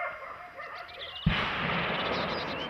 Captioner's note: gunshot